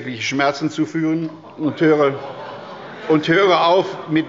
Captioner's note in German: Zurufe von der CDU